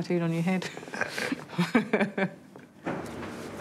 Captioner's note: laughs